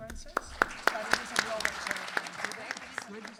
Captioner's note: applause